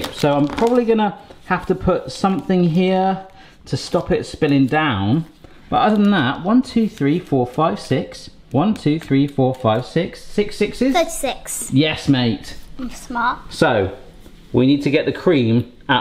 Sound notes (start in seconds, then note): none